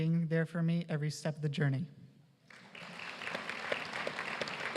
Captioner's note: applause